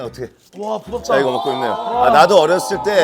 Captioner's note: haha